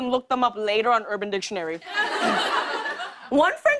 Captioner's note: laughter